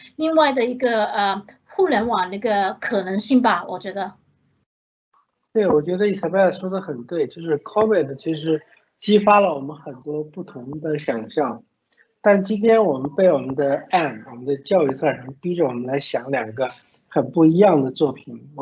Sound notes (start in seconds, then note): 5.8 Mandarin